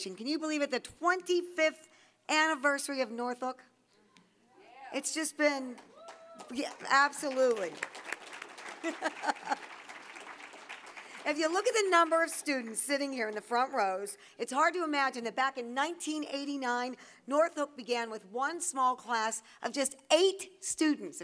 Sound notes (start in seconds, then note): 8.7 applause; 8.7 laughing